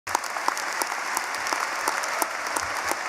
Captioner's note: applause